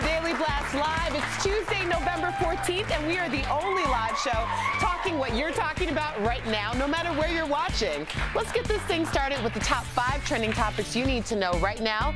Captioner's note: applause